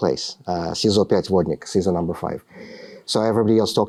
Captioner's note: speaking russian